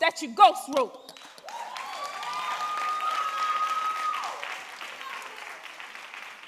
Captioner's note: audience cheering and applauding